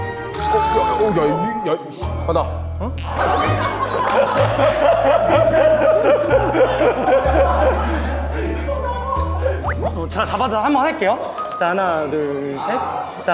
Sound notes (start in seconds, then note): 3.1 kekekekeke